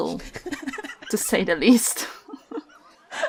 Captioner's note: Jo laughs; laughs; laughing